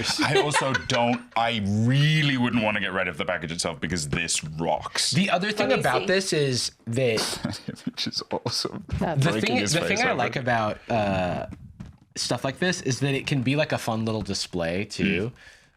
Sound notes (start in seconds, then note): 7.2 laughing